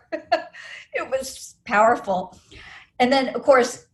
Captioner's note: laughs